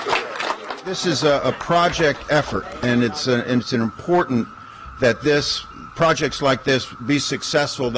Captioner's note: applause